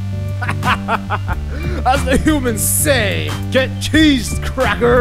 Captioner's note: ⟡ Amazing Music ⟡; ⟡ Maniacal Laughter ⟡